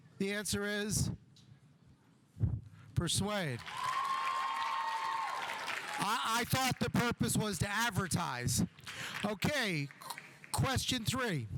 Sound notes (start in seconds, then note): 3.6 audience cheering; 3.6 audience applauding